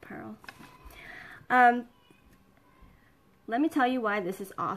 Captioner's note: kids yelling